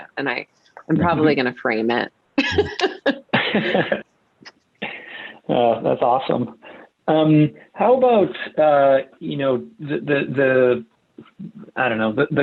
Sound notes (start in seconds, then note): 2.4 laughs